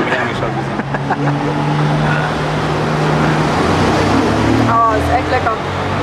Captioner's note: laughter